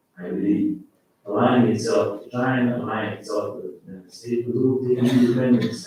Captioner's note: faintly speaking